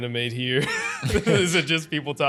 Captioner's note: laughing